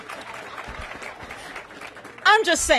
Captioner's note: applause